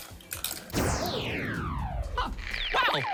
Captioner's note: electricity pulses